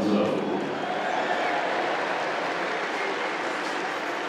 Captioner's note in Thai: เสียงเชียร์